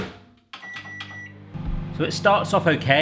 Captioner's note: beeps